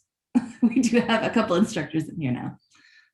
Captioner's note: laughs